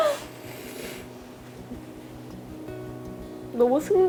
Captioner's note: tears